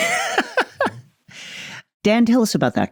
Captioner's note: laughs